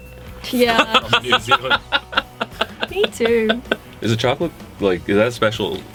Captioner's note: laughter